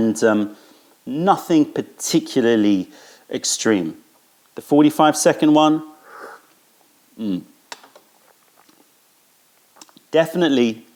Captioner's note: sips tea